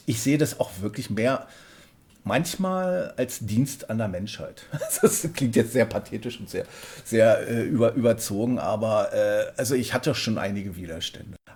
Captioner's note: laughs